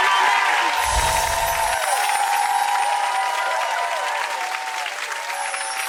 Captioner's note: audience applauding and cheering